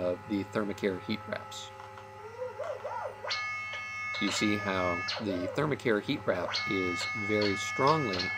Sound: alarm

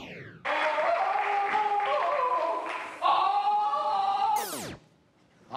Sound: men yelling

